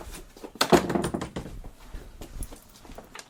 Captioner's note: door closing